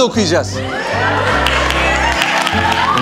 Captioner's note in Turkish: alkışlar ve bağırışlar